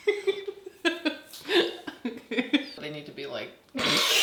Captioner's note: Brandon's wife laughing